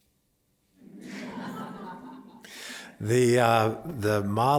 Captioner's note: laughter